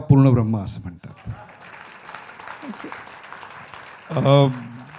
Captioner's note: applause